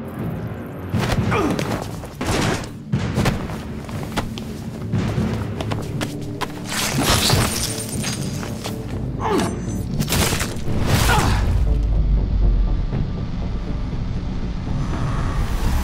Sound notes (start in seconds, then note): 1.2 groan; 7.1 electricity crackling; 9.2 groan; 11.6 cries out